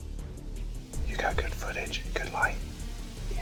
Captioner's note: whispering